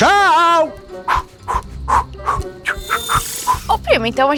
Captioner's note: sparkling; sighing